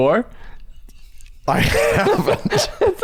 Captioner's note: chuckles